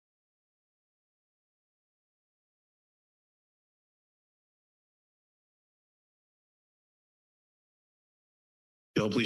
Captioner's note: silence